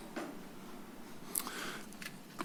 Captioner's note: clicks tongue